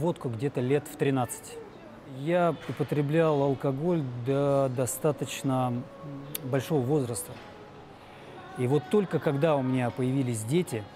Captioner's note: speaking russian